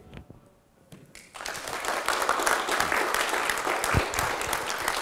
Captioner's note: applause